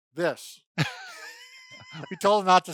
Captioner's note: laughing